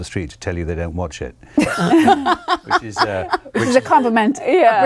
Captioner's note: laughing